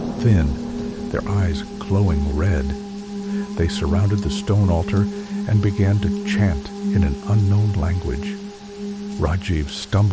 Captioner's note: chant in an unknown language